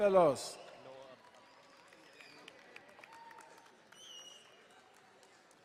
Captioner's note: light clapping, whistling